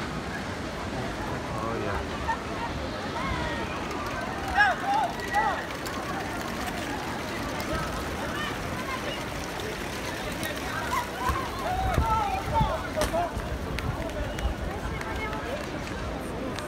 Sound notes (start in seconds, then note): 4.4 crowd chattering; 9.9 wind rustling